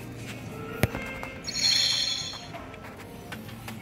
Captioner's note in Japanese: 楽天Edyの決済音